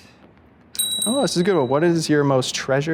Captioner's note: bell dings